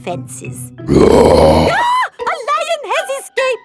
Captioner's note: roars; screams